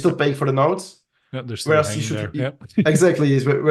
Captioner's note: both chattering